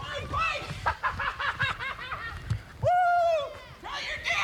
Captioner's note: laughs